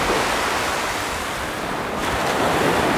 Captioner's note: waves crashing